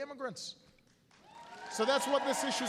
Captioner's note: applause